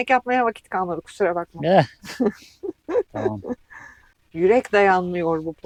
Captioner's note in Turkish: kahkaha